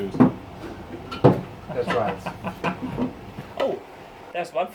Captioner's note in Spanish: risas